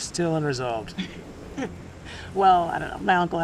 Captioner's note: Frankie laughs